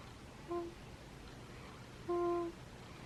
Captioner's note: cooing